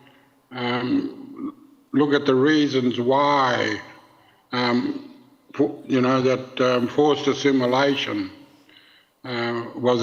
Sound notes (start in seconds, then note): none